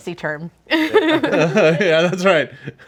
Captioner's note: group laughs